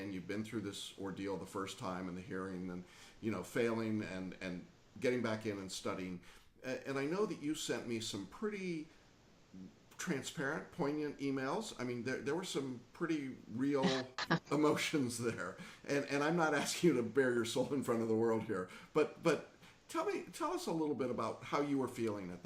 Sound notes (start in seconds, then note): 13.8 laughing